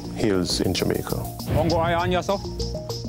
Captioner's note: non-english speech